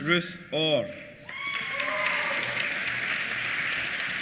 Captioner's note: applause